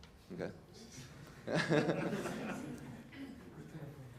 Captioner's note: laugh